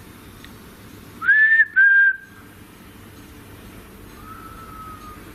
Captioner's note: whistles; soft whistling